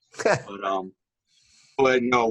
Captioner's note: laughter